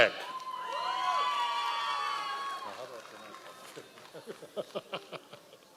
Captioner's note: members of the audience cheering